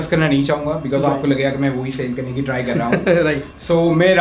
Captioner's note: laughed